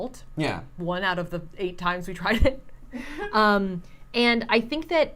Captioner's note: laughs